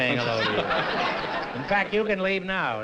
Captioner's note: laughter